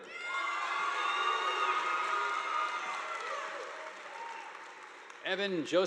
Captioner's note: students cheering; audience applauding